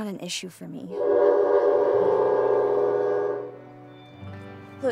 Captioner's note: train horn blares